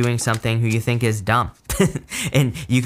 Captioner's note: chuckles